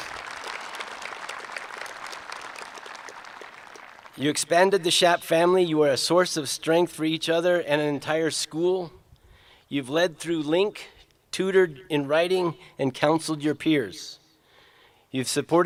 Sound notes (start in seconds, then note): 0.0 applause